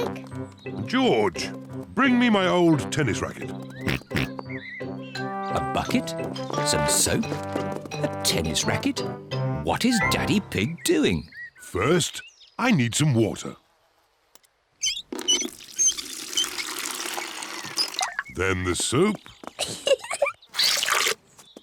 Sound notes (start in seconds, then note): 3.8 oinks; 19.6 giggles